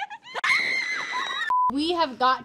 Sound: bridesmaid screams

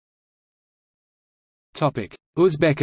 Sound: in Arabic

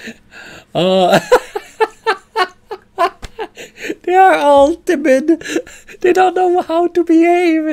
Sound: laughter

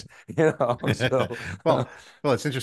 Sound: both chuckling

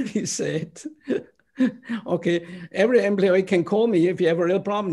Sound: laughter

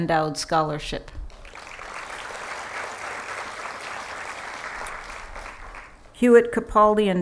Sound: applause

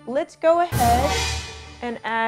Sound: dramatic sound

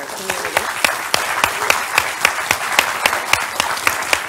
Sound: audience clapping

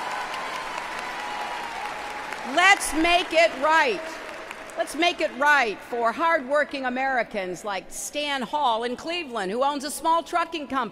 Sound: applause

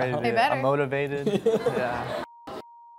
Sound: laughs

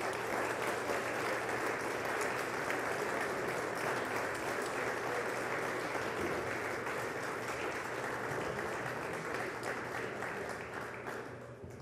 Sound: applause

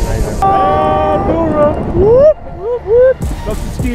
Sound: whooping

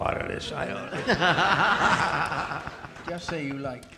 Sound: audience laughing

